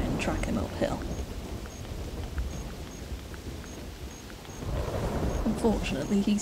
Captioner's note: thunder rolls